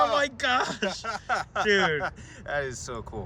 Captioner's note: both laughing